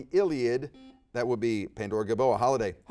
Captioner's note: buzzer dings